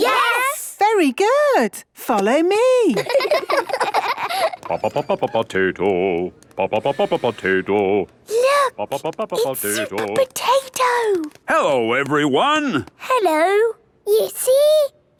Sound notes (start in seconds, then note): 2.9 children laughing; 4.8 sing-song voice; 8.4 hushed